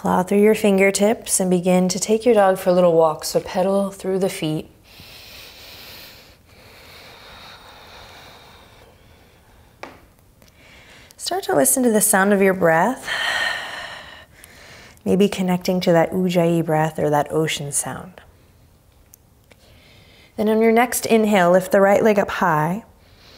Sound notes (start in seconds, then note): 4.8 inhaling deeply; 6.7 exhaling strongly; 13.2 exhaling strongly